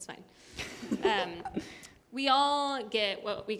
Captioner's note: laughter